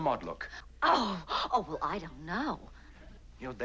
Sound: gasps

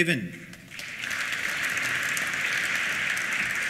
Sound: applause

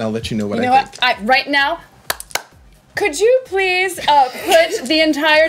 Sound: clapping

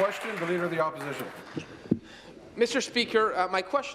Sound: applause

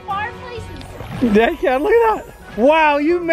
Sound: splashing

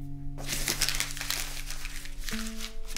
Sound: paper crumbles

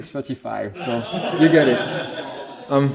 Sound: laughter

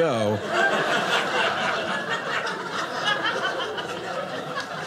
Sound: audience laughing

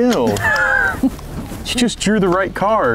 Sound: laughter

